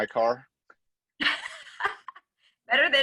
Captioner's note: laughs